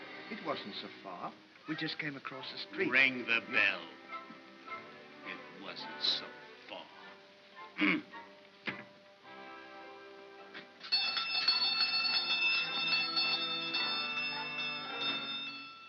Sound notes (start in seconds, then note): 5.1 mocking tone; 7.8 Ollie grunts; 10.8 bell rings